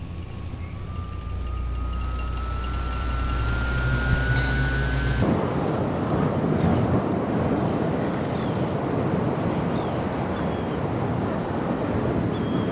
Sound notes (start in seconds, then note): 5.2 ocean waves, wind